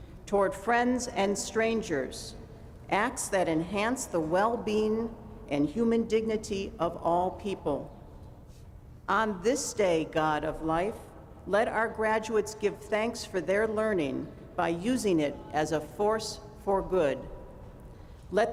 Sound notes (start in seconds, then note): none